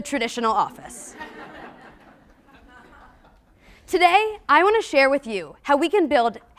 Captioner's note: laugh